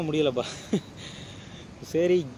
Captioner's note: laughing